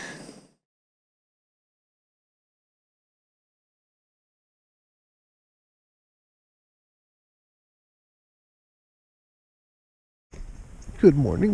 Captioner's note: silence of the void again